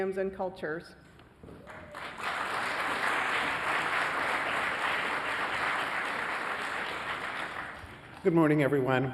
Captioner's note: applause